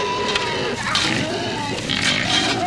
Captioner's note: pigs squealing